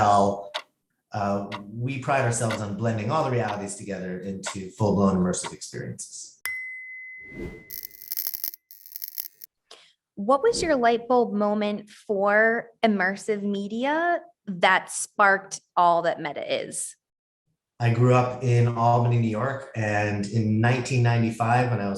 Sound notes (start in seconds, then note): 7.8 lightbulb crackles